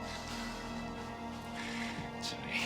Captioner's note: laughs